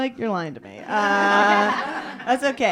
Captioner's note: laughter